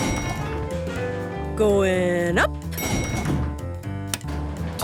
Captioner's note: elevator pings